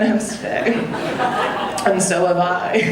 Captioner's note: audience laughing